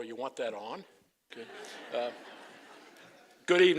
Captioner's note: laughter